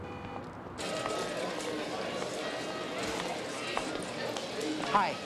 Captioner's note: people conversing